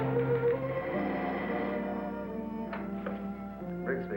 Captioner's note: phone ringing